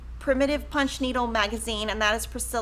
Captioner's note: women chatting